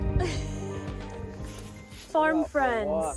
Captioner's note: laughs